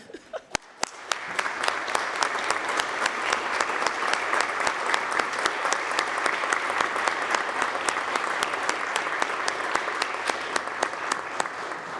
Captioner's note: applause